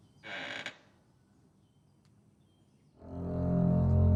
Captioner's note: floorboard creaks; ominous music